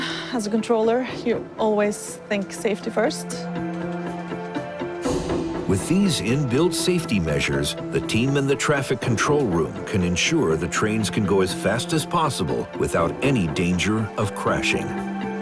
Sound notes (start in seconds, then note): none